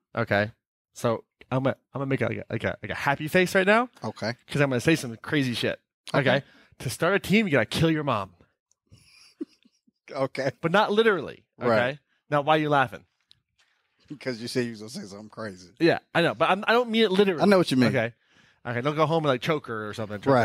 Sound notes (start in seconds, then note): 9.0 laughing